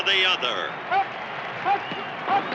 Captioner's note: players chanting